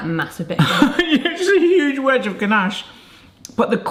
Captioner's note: laughing